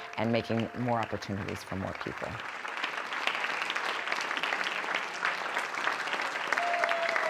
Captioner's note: applause